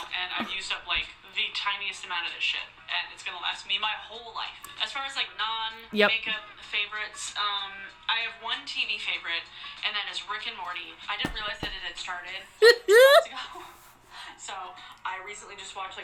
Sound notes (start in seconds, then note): 12.6 laughing